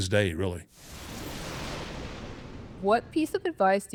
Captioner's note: thunder rumbling